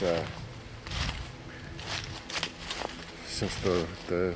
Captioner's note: soft ominous music; leaves crunching